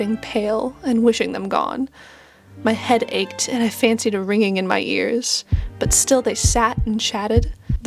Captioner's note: heartbeat begins faintly